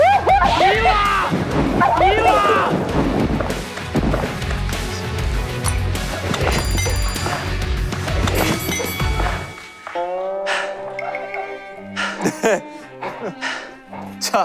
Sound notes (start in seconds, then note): 6.4 ding, ding, ding